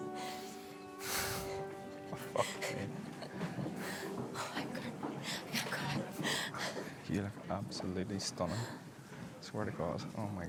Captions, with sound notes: I fucking... (bride laughing) - Oh, I haven't cried. (laughing) - You look absolutely stunning. Swear to God.